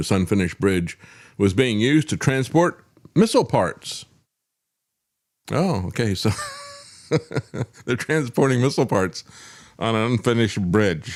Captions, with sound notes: unfinished bridge was being used to transport missile parts. Oh, okay, so. (Laughing) They're transporting missile parts on an unfinished bridge.